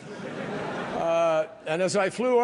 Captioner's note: laughter